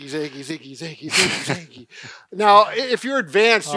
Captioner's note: chuckles